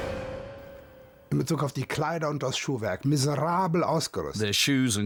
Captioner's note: speaking German